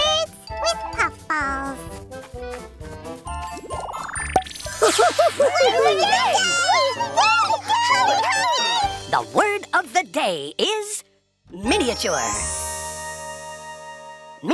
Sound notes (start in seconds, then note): 4.2 pop; 4.8 giggling; 8.1 cheering